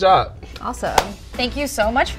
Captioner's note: hands clapping